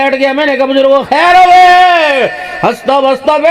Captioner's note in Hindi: चीखने की आवाज़